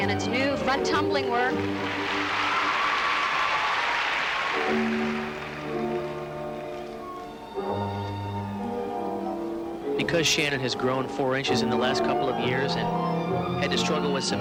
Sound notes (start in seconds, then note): 8.2 applause